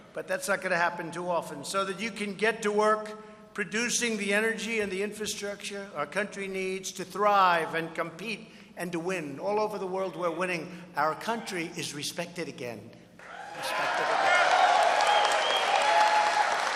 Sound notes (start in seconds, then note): 13.2 applause